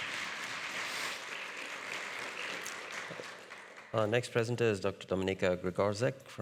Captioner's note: audience clapping